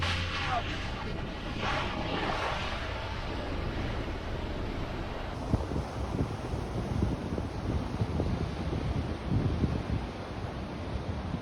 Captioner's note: wind and ocean surf sounds